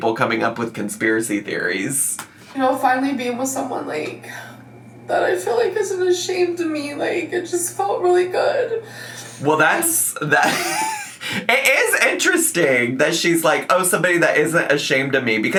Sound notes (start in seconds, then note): 10.2 laughing